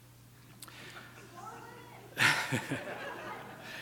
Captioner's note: audience mumbles speaks in distance; laughs